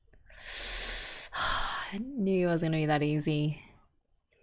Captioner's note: sighs